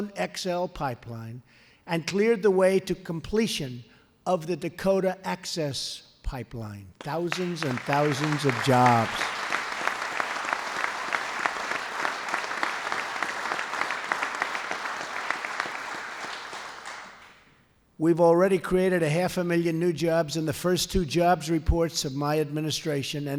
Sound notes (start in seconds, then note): 9.7 applause